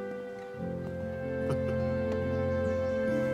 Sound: Ciro chuckles

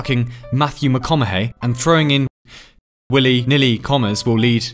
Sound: breath

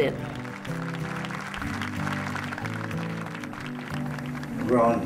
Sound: applause

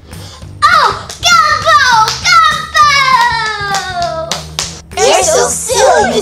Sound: claps

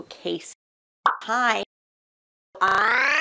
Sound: pop

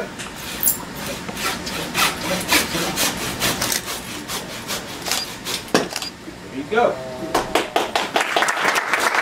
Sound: saw cutting; applause

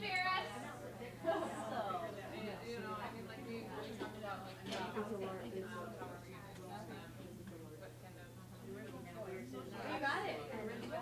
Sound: chatter

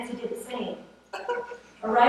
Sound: laughter

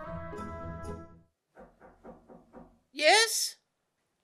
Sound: knocking at door

